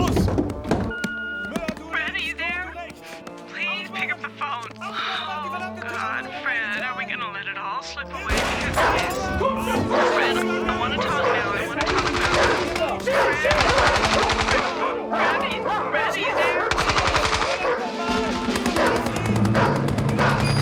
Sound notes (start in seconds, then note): 0.1 speaking german; 3.0 on phone; 8.3 gunshot; 10.4 speaking german; 18.6 dog barking